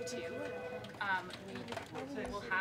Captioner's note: indistinct chatter